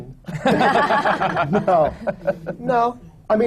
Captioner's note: laughter